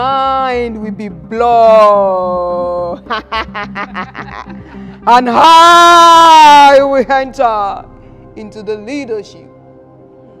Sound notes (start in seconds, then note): 2.9 laughter